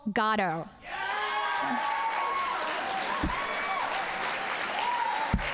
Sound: audience cheering and applauding

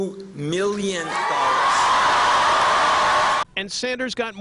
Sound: applause

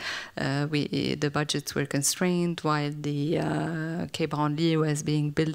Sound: french

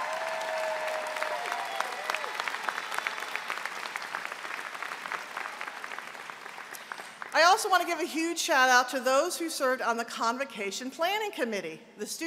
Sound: applause

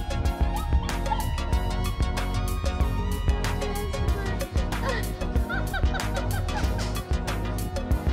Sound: laughing

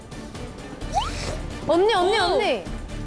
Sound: puff

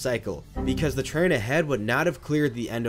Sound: Windows error sound

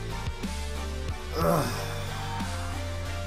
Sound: sigh

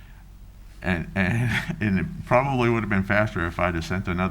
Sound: chuckles

